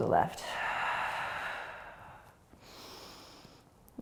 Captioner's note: exhaling